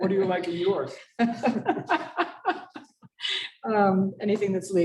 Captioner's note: laughter